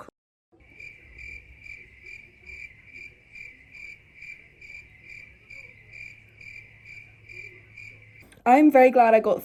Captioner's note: crickets